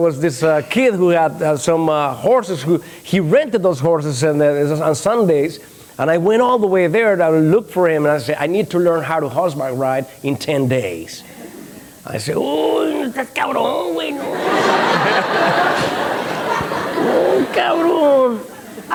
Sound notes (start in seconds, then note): 13.1 mumbling; 14.2 laughter